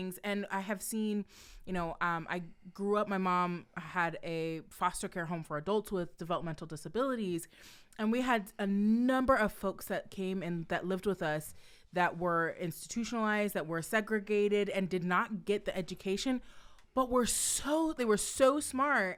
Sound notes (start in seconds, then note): none